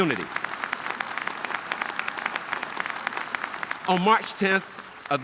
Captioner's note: audience applauding